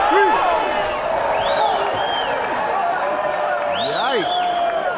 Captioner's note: audience whistling